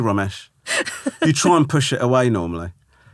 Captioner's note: laughing